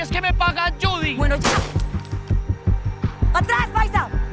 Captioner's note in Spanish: Disparo